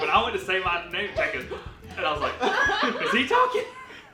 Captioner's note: inhaling